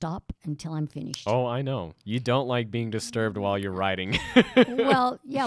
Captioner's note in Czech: Chichotá se